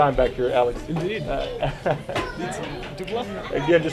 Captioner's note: laughing